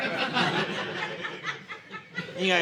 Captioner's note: audience laughing